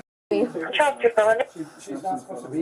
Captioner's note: radio chatter